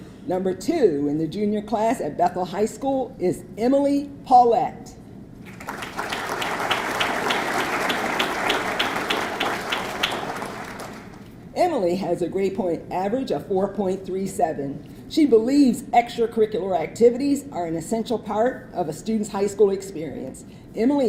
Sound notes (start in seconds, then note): 5.4 audience clapping